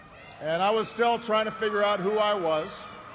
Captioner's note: cheers and applause